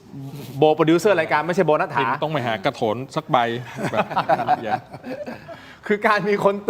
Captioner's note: laughs